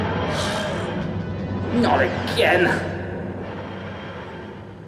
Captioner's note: whooshing; sighing